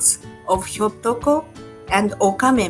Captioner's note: speaking in Japanese language